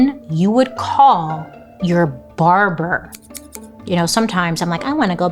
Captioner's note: scissors snipping